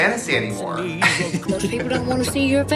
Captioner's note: woman laughs